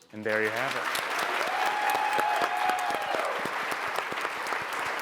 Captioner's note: audience applauds